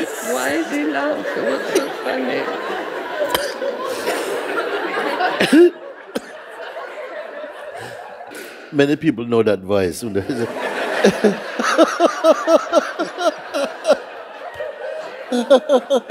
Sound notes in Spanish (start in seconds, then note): 10.2 risas; 12.3 Mooji y la sangha continúan riendo